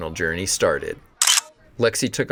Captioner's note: camera shutter